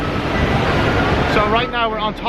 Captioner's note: water flowing